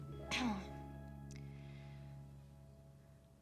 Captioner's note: clears throat